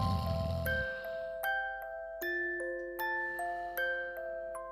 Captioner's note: bells chiming; snores